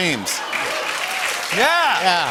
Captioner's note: laughter and applause